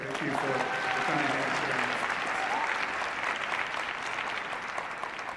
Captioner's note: cheering and applause